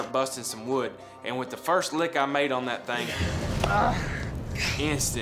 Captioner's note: groaning